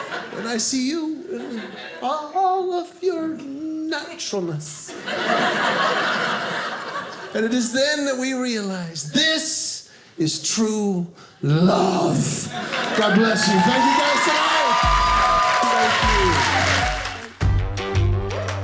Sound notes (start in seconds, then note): 4.8 audience laughing; 14.7 audience cheering